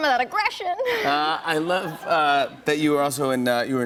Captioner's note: laughter